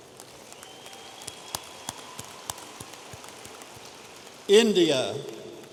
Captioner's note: audience applauding